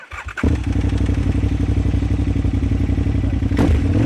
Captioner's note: bike engine revving